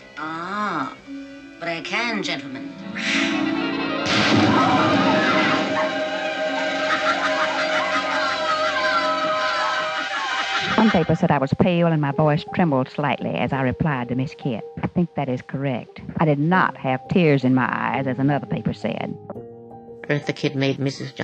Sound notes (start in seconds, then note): 2.8 hisses; 3.8 exciting music; 3.8 sparks crackle; 5.9 audience gasps; 5.9 tense music; 7.5 Catwoman laughing maniacally; 9.0 women exclaiming